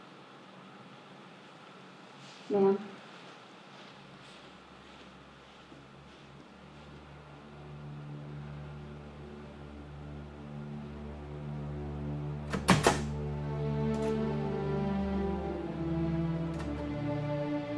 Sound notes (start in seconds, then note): 6.5 ominous music; 12.5 door opening; 14.0 upbeat music